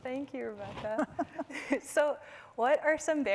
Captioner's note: chuckling